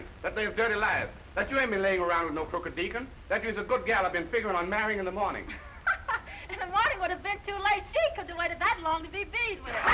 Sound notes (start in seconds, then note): 5.6 laughing